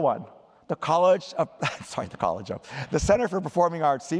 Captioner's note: laughter